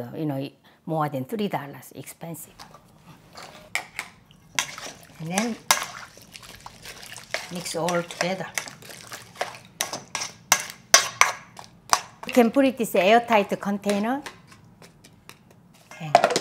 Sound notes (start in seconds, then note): 6.5 sloshing noise